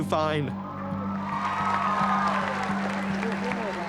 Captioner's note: cheers and applause